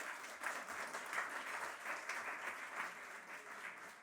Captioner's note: audience applauding